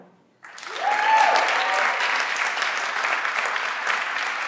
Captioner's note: everyone claps